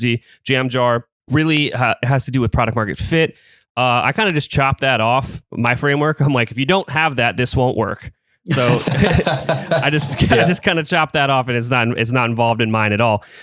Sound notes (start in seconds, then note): 8.5 laughs